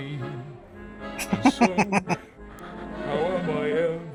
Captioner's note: chuckling